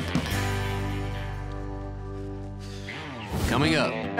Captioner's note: sighs